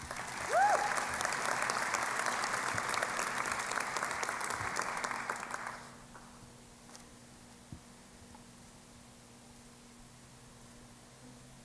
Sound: applause

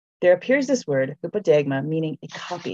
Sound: speaks in foreign language

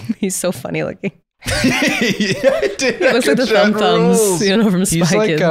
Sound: laughing

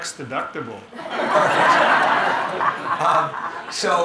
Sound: audience laughing

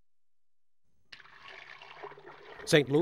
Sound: pouring

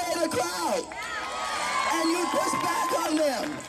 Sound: cheering and applause

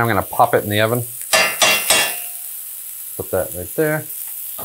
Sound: metal tapping

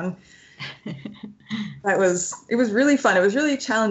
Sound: laughs

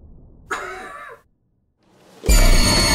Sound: Nathan coughs; harrowing music

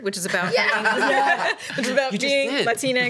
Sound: laughs

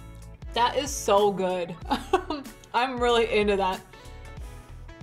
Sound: chuckles

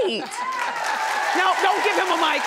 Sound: audience cheering

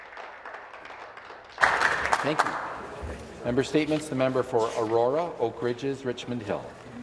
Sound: applause

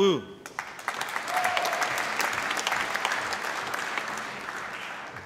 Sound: applause

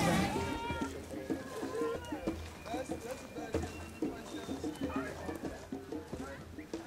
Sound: chattering

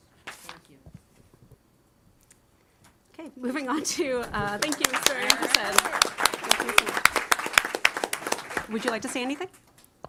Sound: applause

